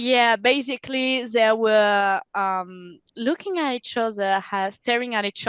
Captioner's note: translating from French